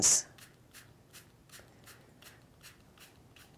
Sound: spraying

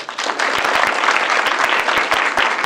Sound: applause

